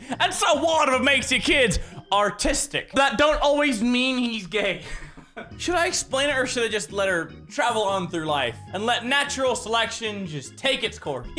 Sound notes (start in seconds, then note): 4.8 defeated chuckle